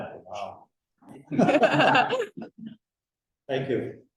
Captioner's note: laughing